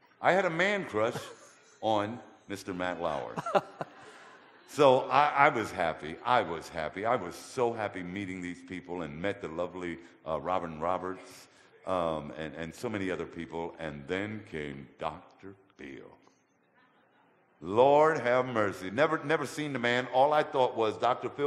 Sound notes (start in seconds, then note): 3.1 audience laughter; 3.2 laughter; 16.4 audience laughter